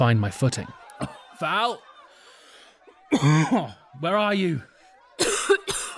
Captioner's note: coughing